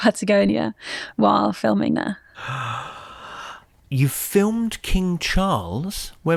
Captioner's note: gasps